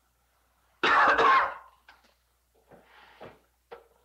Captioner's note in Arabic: سعال